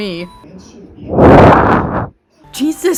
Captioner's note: aggressively breathing into mic